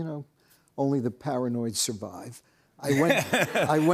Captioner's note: laughter